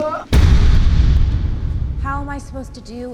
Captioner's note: explosive boom